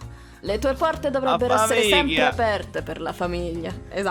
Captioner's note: in bad sicilian